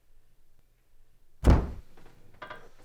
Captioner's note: door Slams